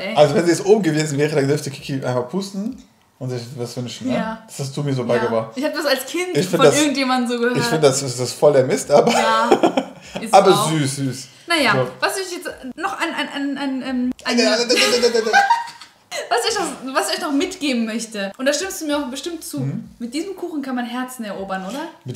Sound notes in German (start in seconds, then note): 14.1 stottert; 14.3 lacht